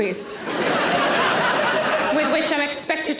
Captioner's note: audience laughing